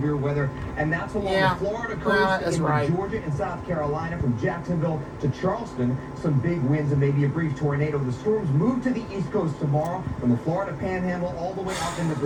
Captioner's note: "ABC World News Tonight with David Muir" plays on TV in background throughout